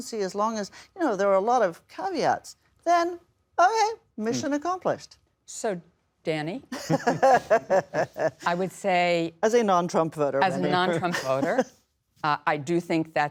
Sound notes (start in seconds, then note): 6.8 laughs